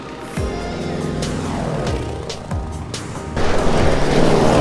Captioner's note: soft music; plane whizzing; soft music